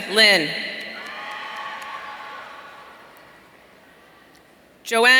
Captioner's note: audience cheering